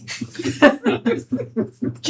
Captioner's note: laughing